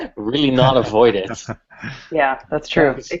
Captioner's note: laughter